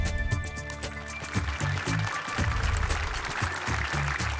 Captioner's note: applause